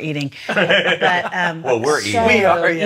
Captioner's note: laughs